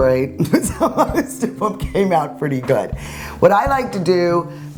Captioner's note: laughing